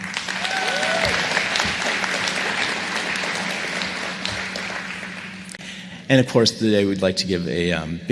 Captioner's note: applause